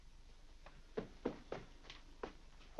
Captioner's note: footsteps up stairs